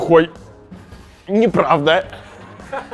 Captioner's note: laughs on the background